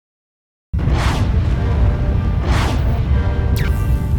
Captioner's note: air whooshes; laser crackles